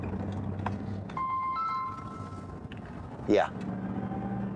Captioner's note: phone rings